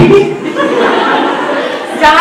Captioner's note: everyone laughs